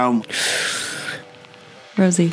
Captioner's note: inhales